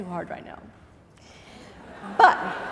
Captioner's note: laughing